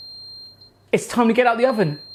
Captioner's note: timer beeps